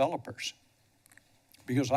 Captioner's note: pause